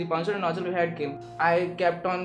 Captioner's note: speaking foreign language